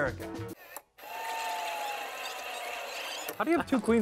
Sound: tape rewind noise

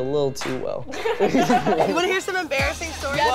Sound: group laughs

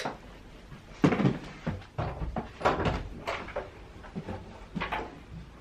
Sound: door sounds

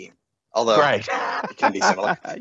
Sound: laughs

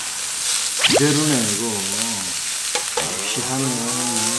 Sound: sizzling

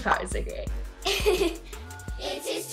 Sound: giggles

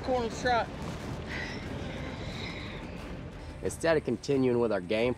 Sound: hoof beats

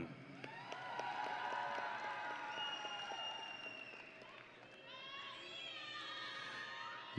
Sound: audience and graduates cheering

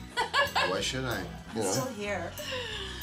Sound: laughing

